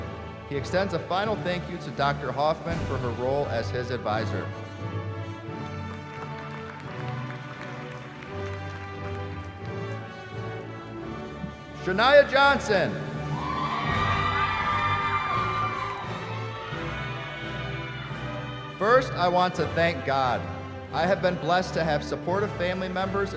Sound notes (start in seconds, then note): 5.1 applause; 13.2 cheering